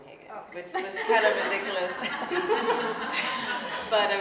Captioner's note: laughing